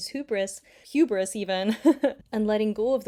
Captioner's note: laughs